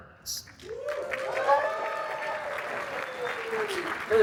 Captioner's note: applause